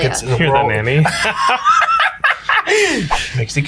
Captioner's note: laughs